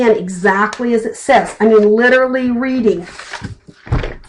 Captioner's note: flipping pages